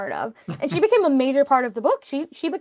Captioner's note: chuckling